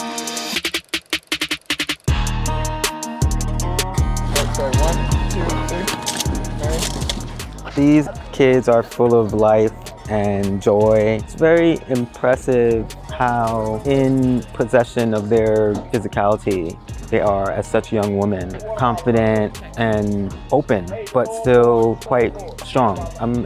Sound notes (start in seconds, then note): 5.8 camera clicks